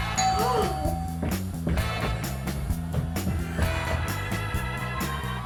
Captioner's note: doorbell rings; gasps; footsteps thudding